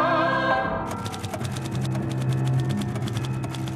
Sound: rapid typing

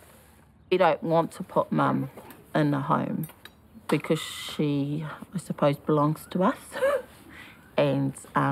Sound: laughs

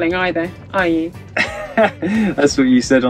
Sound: laughs

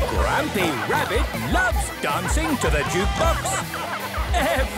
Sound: shouting

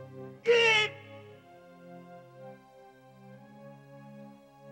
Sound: Ishikawa screams

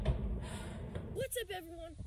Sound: sigh

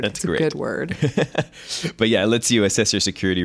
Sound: laughter

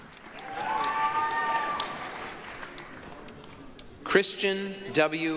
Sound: applause, cheering

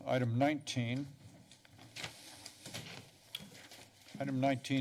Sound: papers rustling

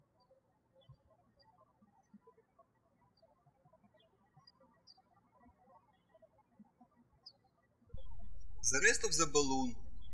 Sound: birds chirping

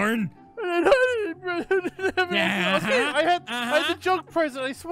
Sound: unicorn cries

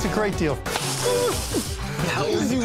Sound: laughs

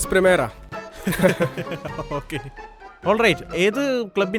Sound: laughs

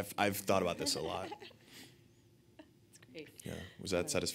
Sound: laughing

